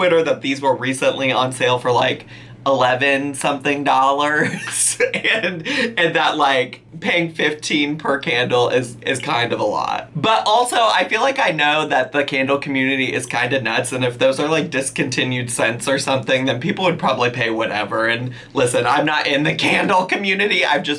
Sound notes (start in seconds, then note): 4.4 laughing